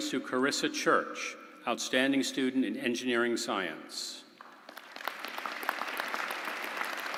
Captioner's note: applause